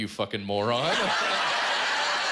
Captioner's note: laughter